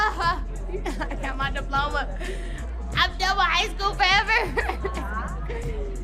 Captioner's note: laughter